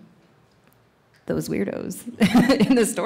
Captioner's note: laughs